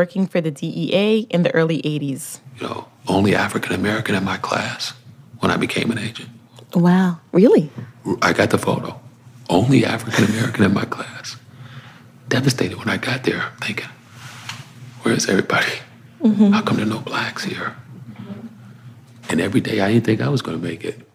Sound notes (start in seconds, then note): 2.7 whispering; 10.0 laughs